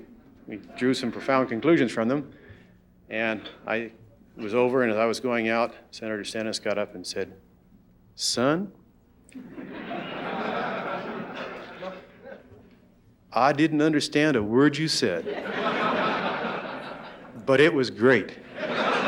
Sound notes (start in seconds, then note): 9.3 audience laughing